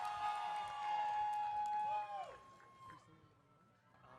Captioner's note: audience cheering